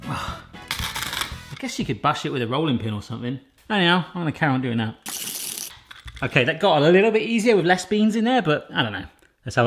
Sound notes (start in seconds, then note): 5.1 crunching